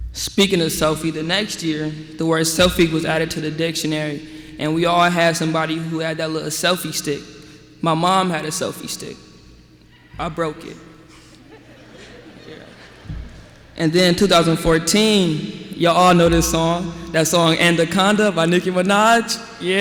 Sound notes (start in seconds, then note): 11.2 laughter